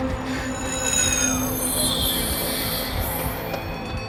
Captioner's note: overlapping distorted sounds